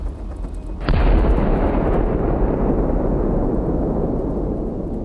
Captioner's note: projectiles fire